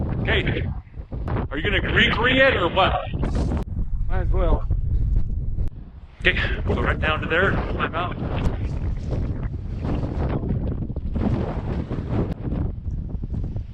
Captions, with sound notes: Okay, are you gonna Gri Gri it or what? Might as well. Okay, go right down to there, climb out. [Wind blowing]